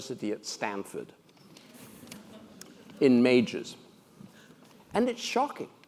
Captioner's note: laugh